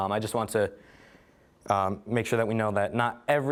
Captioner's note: none